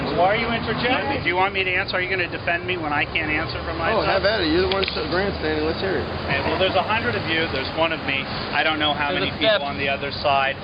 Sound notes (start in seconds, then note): 3.7 voiceover